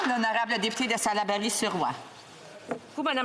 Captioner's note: applause